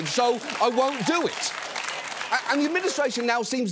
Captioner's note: audience applauds